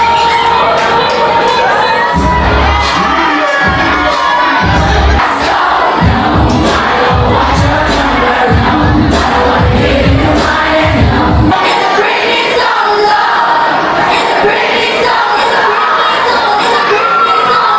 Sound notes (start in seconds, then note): 2.4 crowd Cheering; 2.4 upbeat Music; 17.6 crowd Cheering; 17.6 upbeat Music